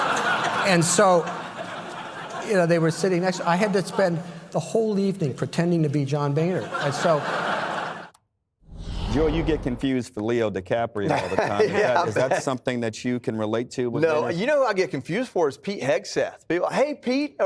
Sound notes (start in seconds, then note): 6.4 laughter